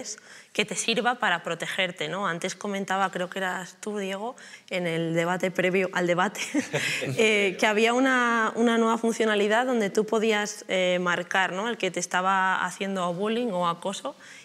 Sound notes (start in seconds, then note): 6.5 laughs